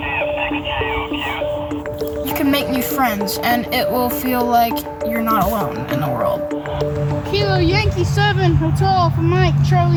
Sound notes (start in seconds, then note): 0.9 man On Radio